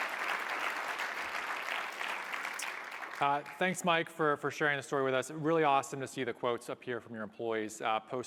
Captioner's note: applause